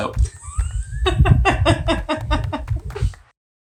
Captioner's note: laughter